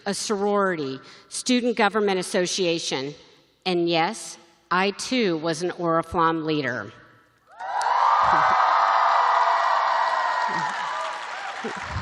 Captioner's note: cheering